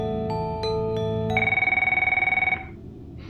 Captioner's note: phone rings